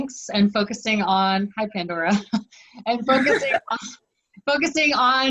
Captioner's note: laughs